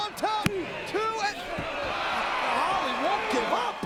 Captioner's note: crowd groaning